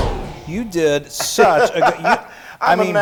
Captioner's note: laugh